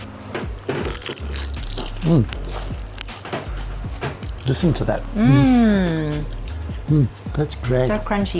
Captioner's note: crunch